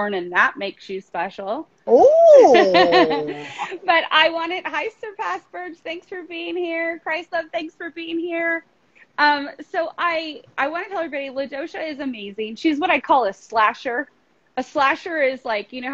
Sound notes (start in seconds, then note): 1.9 laughing